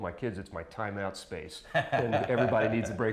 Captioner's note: laughs